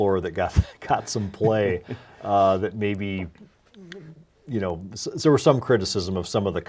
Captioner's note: laughs